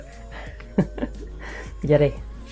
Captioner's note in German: Lacht auf Litauisch